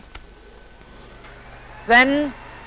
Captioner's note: machine whirring